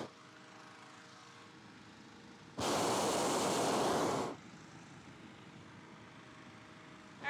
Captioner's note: flame whooshes